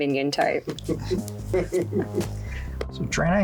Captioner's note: producer chuckling